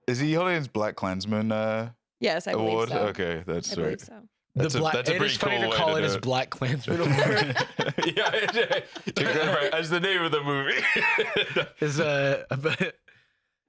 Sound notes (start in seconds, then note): 6.6 laughing